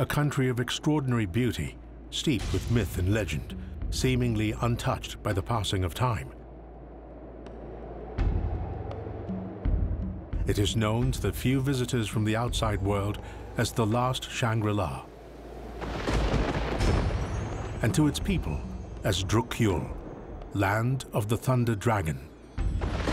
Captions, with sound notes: A country of extraordinary beauty, steep with myth and legend seemingly untouched by the passing of time. (winds howling) (dramatic music) It is known to the few visitors from the outside world as the last Shangri-La. (rocks rumbling) And to its people, as Drukyül, land of the thunder dragon.